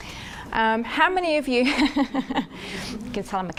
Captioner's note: laughs